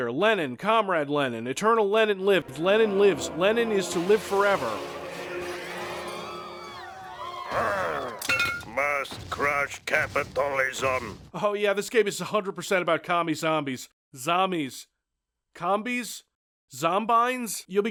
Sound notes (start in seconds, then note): 7.3 zombie growl